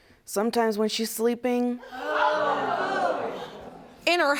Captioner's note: audience gasping